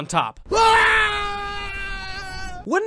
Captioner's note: man screaming fading into distance